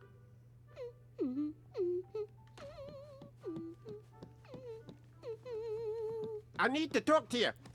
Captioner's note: Minnie Humming